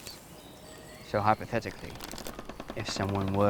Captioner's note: trees crunch, wind blows